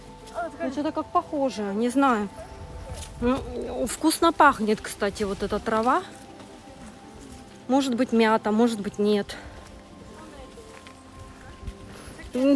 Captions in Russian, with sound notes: Ну что-то как похоже... Не знаю... ммм... (нюхаю).... вкусно пахнет, кстати, вот эта трава.... может быть мята, может быть нет.